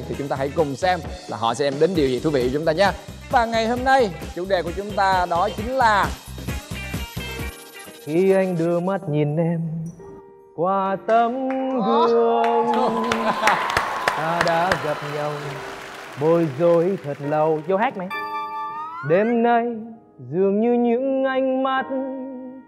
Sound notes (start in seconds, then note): 12.4 applause